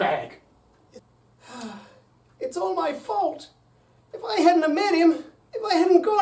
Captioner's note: sighs